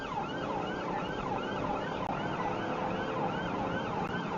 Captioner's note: engine accelerates